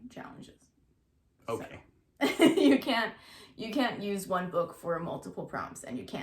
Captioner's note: laughs